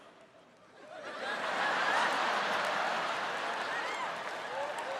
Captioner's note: audience laughs